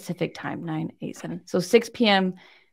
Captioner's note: speaking faintly